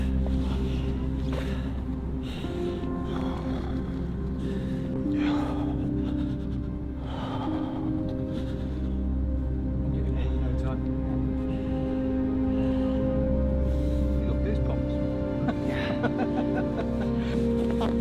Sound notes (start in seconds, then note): 5.1 continues breathing shakily; 9.4 pensive music; 15.4 laughs